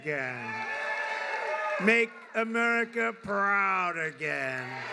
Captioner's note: applause